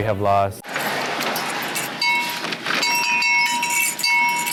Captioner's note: bell ringing